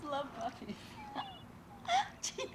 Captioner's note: laughing